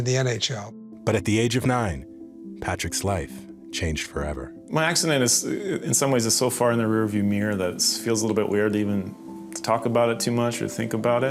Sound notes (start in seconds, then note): none